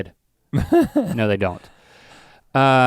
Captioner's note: Rhett chuckles